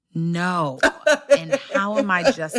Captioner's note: laughter